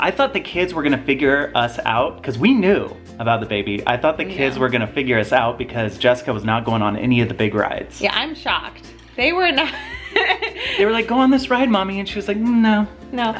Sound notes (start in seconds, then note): 9.7 laughs